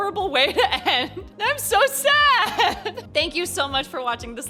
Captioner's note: chuckle